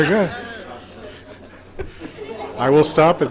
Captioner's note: audience groaning and chuckling